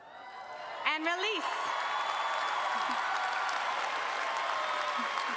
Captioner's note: audience cheering